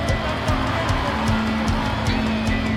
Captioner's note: crowd cheering